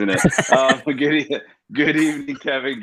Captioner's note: laughs